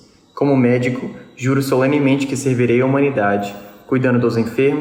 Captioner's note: speaks in foreign language